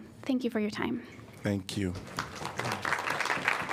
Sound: applause

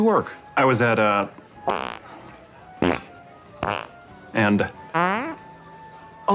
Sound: farts

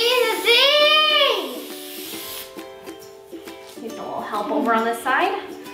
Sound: can spraying

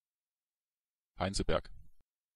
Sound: fast Pronunciation

